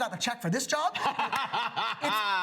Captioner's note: laughs